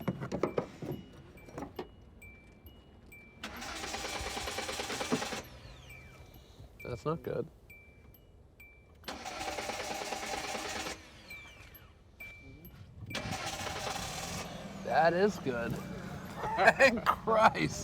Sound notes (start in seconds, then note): 3.5 engine revving, stopping; 9.1 engine revving, stopping; 13.1 engine starting; 15.8 chuckling